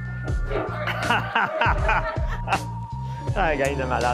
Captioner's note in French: rire